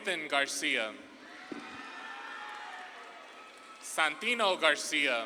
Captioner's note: audience claps and cheers